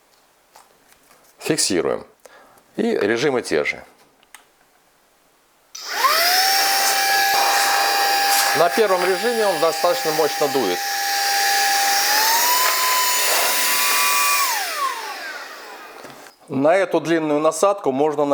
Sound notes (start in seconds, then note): 6.7 motor noise